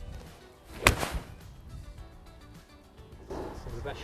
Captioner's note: golf ball cracking